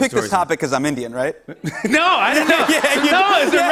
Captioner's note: laughter